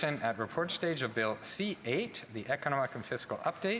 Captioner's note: speaking French